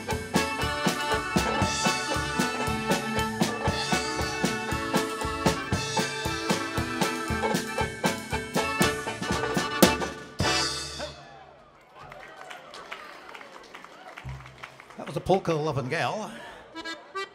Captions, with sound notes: (audience applauding) - That was Polka Loving Gal.